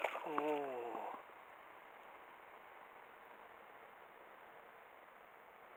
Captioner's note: laughs